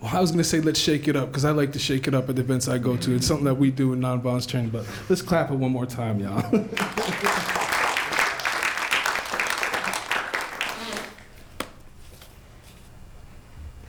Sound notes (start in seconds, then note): 6.7 applause